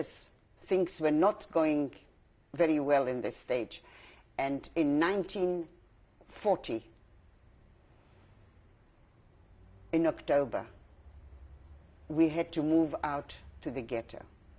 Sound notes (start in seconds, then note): 6.1 pauses for 3 seconds